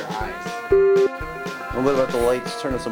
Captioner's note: beep